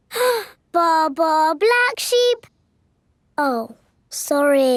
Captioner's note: inhales